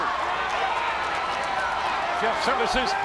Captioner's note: spectators cheering and applauding